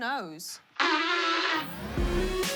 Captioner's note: blows nose